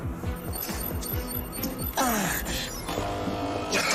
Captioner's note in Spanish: Bip; Gruñidos